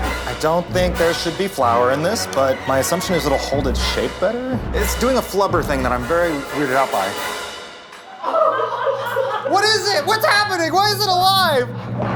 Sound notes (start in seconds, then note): 8.0 laughter